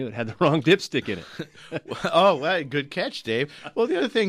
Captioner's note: both laugh